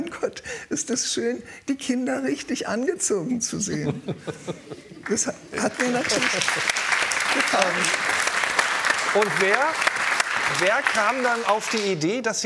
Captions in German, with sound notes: "Mein Gott, ist das schön, die Kinder richtig angezogen zu sehen." (Lachen) Das hat mir natürlich ... gefallen. Und wer ... wer kam dann auf die Idee,